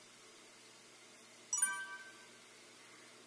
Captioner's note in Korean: 뽀로롱